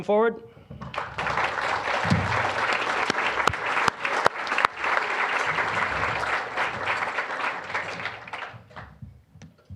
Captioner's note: applause